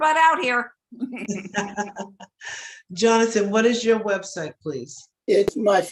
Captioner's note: laughing